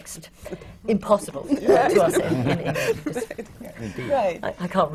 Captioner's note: laughter